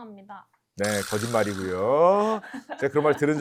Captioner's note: comical sound effect